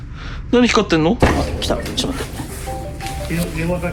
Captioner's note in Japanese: 呼び出し音